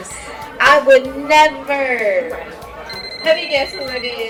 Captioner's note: phone ringing